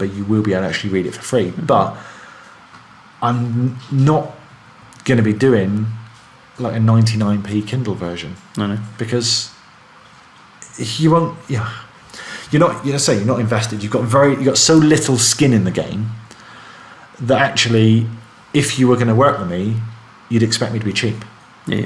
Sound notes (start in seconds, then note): 12.0 sighs